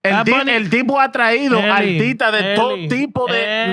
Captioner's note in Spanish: Hablando en idioma extranjero